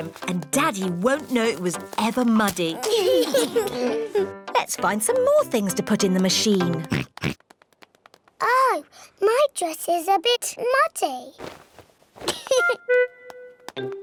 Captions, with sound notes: And Daddy won't know it was ever muddy. -Let's find some more things to put in the machine. -(OINKS) Oh, my dress is a bit muddy. (GIGGLES)